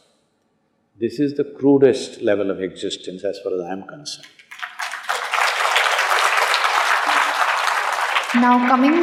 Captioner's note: applause